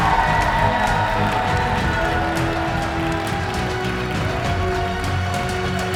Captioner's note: crowd cheering